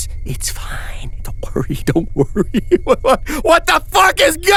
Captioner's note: laughing